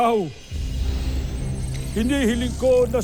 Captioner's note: sparkling whoosh